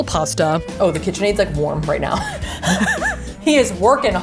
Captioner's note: chuckling